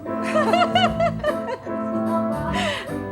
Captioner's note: laughs